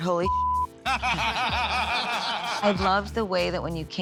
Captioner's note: laughter